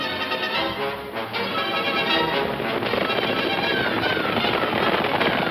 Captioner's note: horse hooves clomping